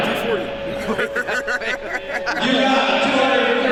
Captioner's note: laughter in the crowd